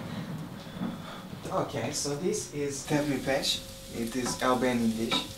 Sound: speaks foreign language

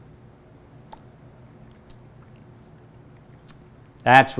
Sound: lips smacking

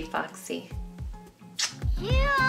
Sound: blows kiss

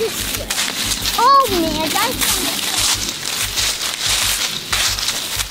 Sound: footsteps rustle

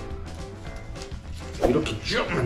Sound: shuuk

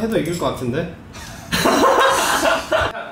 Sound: laughing

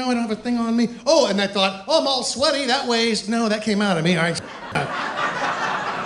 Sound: laughter

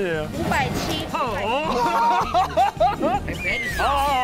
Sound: laughing

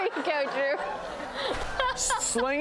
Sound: laughter

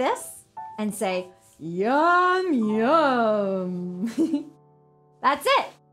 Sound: giggles

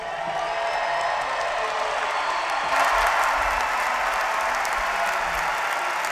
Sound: applause

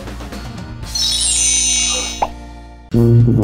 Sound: magic sounds; trombone playing

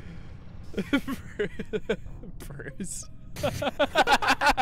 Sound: laughing; laughter

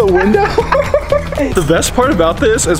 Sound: laughing

